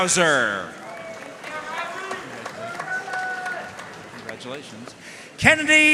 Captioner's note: audience cheering and applauding